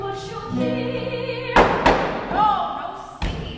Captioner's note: bangs gavel